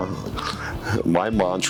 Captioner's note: licking lips; chuckling